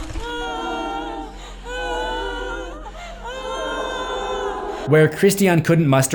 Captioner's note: group wailing sounds